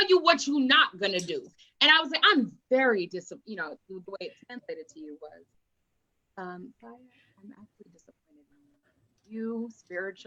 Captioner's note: quietly